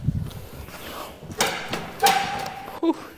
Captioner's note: floor crumbling